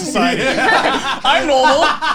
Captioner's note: both laughing